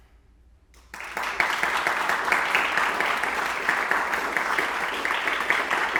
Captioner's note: audience applauding